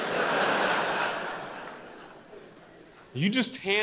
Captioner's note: audience laughing